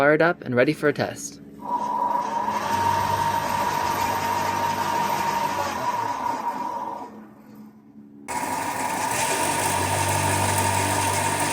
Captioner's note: motors spin